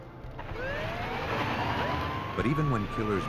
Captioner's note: sirens